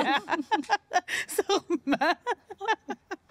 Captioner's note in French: rires